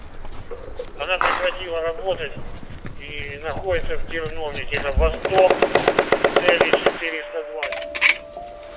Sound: radio exchange

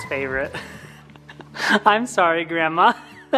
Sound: softly chuckles

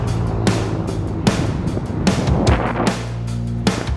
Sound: car engine revs

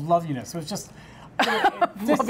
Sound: laughs

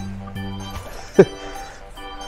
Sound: laughs

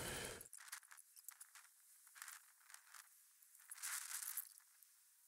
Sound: audio warping

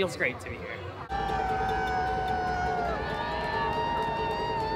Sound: cheering; ukelele playing

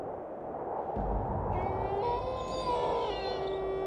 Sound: wind whistling; wolf howling

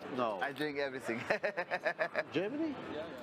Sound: laughs

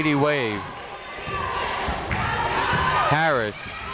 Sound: people shouting in the crowd

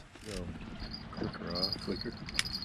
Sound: jangling

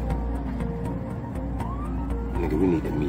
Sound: siren

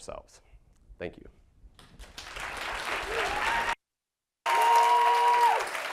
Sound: audience applauds and cheers

